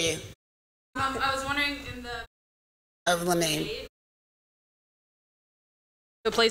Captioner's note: audio out